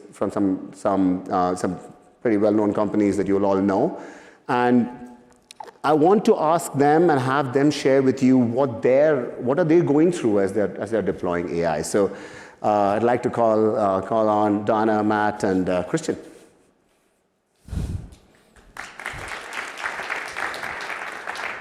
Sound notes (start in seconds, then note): 18.6 applause